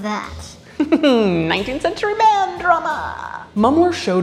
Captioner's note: chuckles